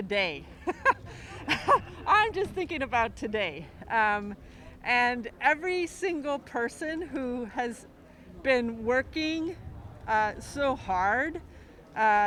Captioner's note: laughs